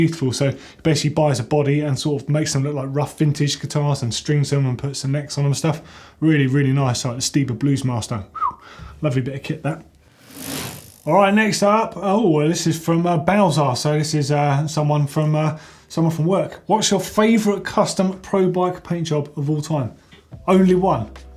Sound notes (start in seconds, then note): 8.3 whistles